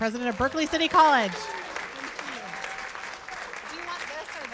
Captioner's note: cheers and applause